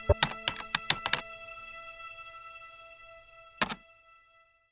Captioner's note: keyboard clicks